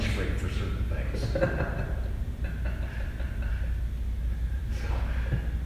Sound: laughs

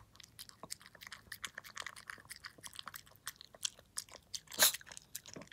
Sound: nom nom asmr

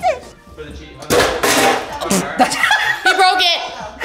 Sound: metallic bang

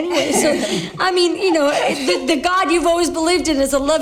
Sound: laughter

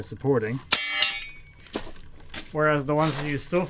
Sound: hanger clangs

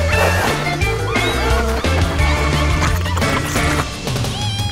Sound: squeaking

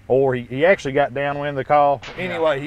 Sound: gunshot

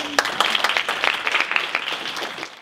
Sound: audience applauding

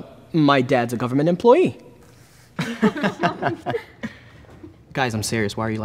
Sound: laughing

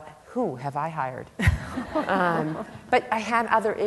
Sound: laughter

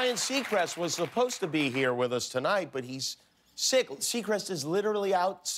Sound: cheers and applause

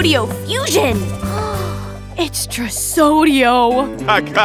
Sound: gasps

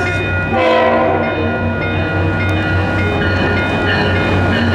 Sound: bell

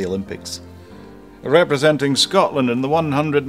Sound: in a funny voice

